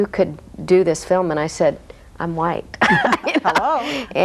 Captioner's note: laughs; guests laugh